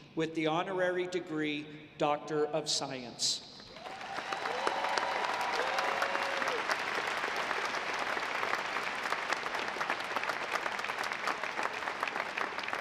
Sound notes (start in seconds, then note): 3.7 audience applauding